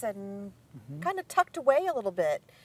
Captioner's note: none